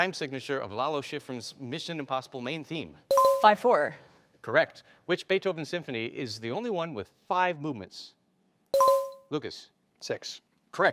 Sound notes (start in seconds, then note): 3.1 bell dinging; 8.7 bell dinging